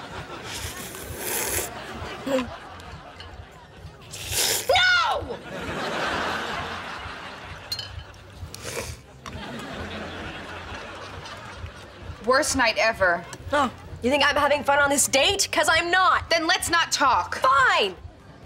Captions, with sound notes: [slurping] Hmm. [slurping] No! [slurping] Worst night ever! Oh, you think I’m having fun on this date? ‘Cause I’m not! - Then let’s not talk! - Fine!